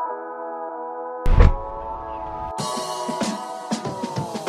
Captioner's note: car door slams; upbeat music